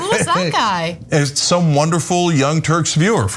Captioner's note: laugh